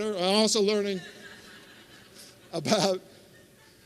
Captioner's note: laughter